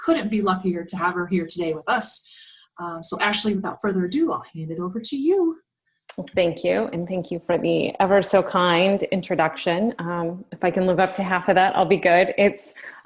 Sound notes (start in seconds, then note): 10.2 Arabic